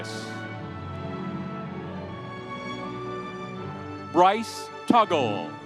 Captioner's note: audience cheering